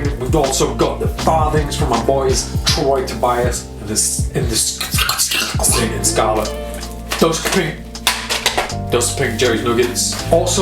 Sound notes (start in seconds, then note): 4.9 scratching sound; 8.0 card falls